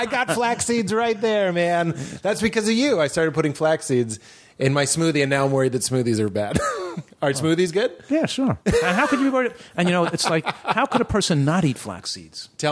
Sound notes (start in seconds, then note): 6.9 laughs; 9.8 laughter